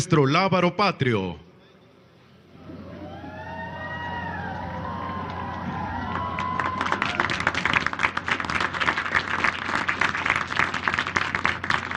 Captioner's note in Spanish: aplausos